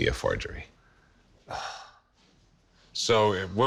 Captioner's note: sighs